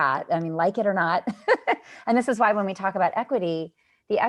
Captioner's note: laughter